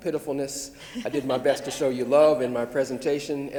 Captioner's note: laughs